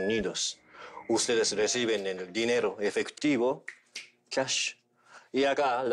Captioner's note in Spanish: Chasquea los dedos